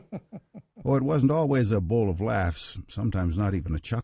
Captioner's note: laughs; voiceover